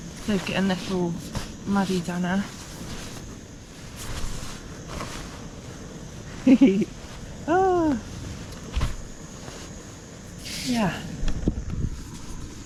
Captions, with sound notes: save getting this all muddy down there *chuckles with floofiness* yeah